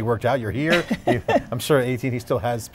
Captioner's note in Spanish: se ríe